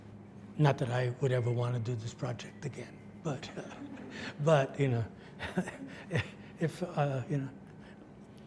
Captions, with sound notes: Not that I would ever want to do this project again, (audience laughs) but, you know,